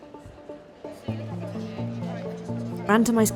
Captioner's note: upbeat music; group chatting